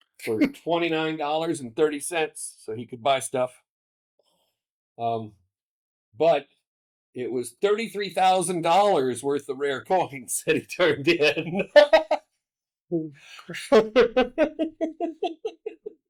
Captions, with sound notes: For $29.30, so he could buy stuff. But it was $33,000 worth of rare coins that he turned in. [LAUGHTER] Oh, for sure. [LAUGHTER]